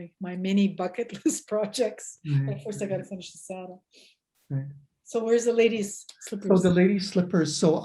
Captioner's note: laughs